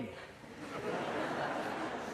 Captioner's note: laughter